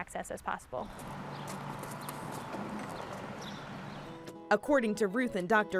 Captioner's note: birds chirping